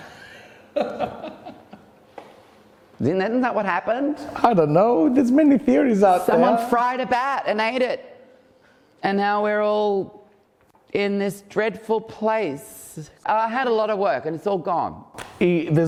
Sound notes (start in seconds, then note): 0.8 laughing; 4.5 giggles